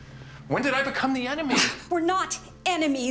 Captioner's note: scoffs